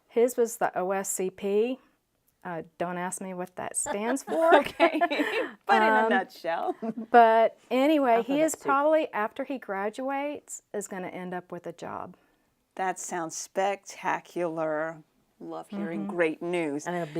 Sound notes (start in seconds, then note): 3.8 laughs